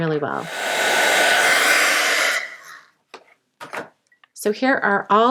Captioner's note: heat tool whirs